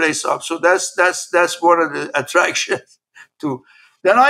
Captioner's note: laugh